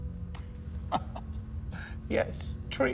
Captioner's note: Marcus laughing